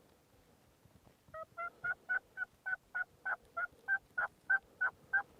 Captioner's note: turkey calling